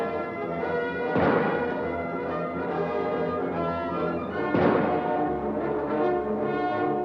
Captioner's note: adventurous music; gunshots blasting